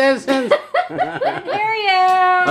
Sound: laughing

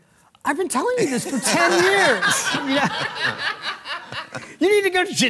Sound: and Audience laughing

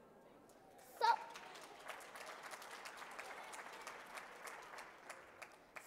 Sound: audience clapping

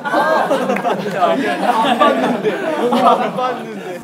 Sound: laughing

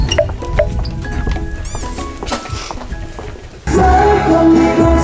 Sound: catching his breath

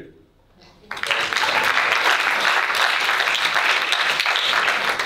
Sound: audience applauding

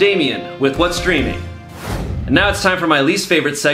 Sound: air whooshing

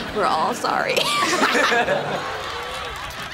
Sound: laughing

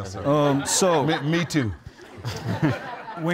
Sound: audience laughs

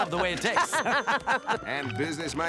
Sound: laughing

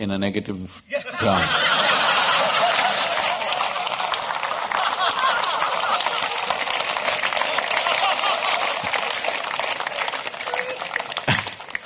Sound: laughter/Applause

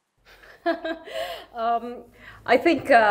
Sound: laughs

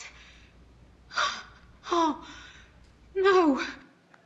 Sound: gasps

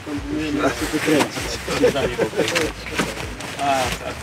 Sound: Sailors speaking Polish

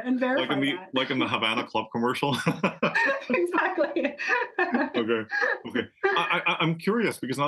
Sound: laugh

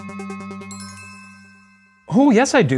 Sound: bell ringing

